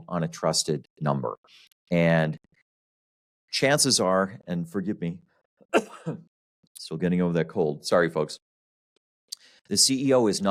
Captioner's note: coughs